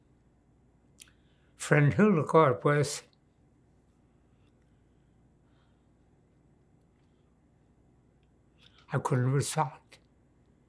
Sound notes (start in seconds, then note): 3.2 pauses 6 seconds